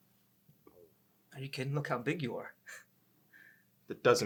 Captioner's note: chuckles